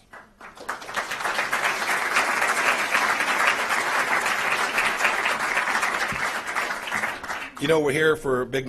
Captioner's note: applause